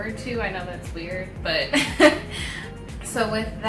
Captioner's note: laughs